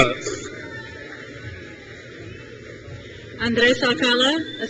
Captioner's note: crowd cheers